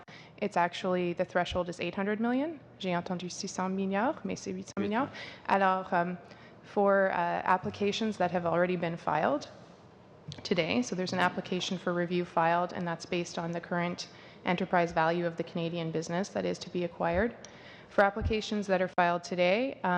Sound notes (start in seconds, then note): 6.1 speaking French